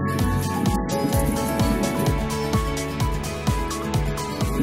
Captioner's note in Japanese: パチパチ音がしています